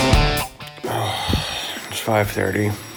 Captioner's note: upbeat rock music; groans